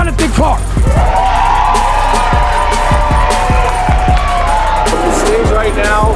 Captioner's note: spectators applauding